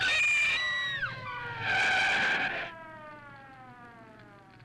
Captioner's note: Jane screams; tires screech; fire crackling